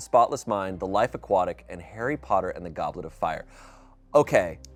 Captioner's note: none